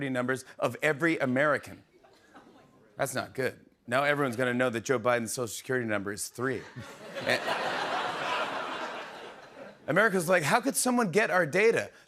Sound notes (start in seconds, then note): 6.6 laughter